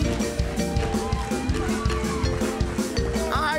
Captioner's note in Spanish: Gritos